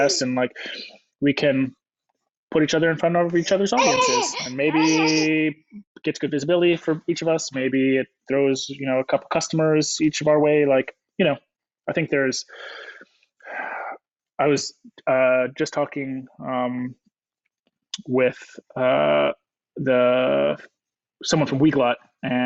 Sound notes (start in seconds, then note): 13.6 sighs